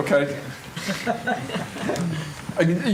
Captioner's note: laughter